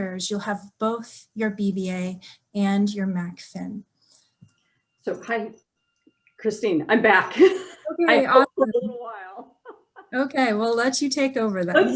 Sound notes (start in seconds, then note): 8.2 chuckles